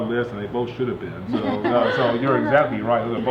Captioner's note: laughing